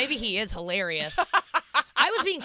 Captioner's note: laughs